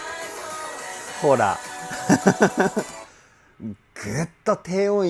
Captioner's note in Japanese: 笑い